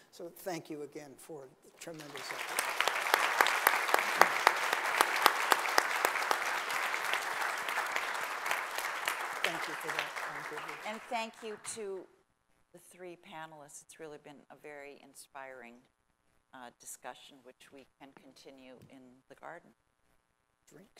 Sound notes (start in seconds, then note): 2.6 audience applauding